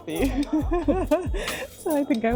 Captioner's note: laughs